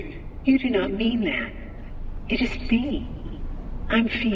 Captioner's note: M1, using Fiona's voice